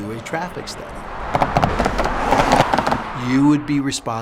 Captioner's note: sounds of cars driving over road tubes